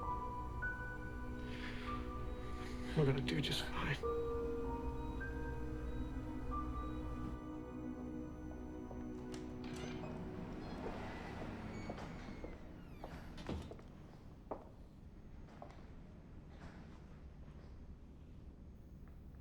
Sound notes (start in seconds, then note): 0.1 gentle tense music; 5.5 gentle tense music; 9.6 door latch clicks; 12.7 shoes clacking